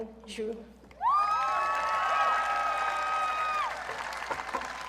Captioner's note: audience cheering